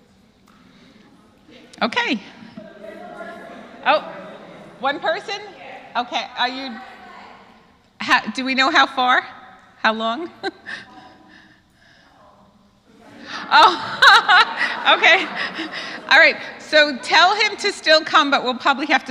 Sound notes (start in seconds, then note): 12.9 laugh